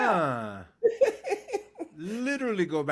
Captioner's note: laughing